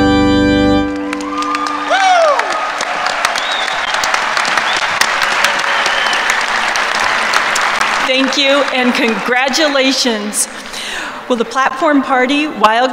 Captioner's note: applause